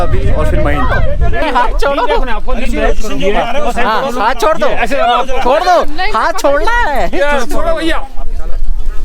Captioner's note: laughs